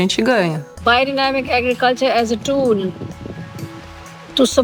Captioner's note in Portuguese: em inglês